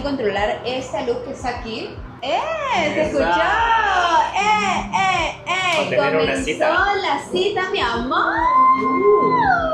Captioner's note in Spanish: grito